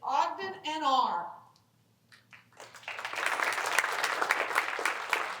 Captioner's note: applause